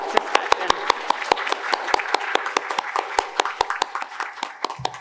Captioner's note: audience applauding